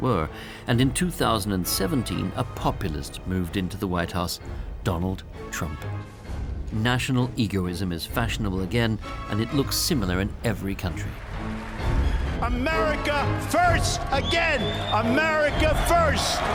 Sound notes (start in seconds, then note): 11.1 cheering; 16.3 raucous applause